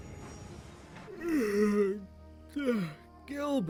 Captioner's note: dexter yawns